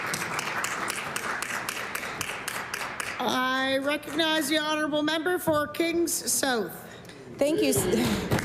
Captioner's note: applause